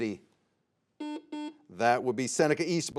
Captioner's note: buzzer beeps